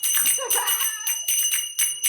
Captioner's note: producer chuckling; zappers clacking